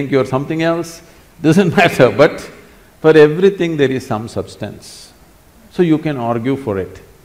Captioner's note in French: rire